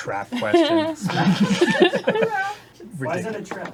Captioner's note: crew chuckling